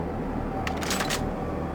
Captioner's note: gun firing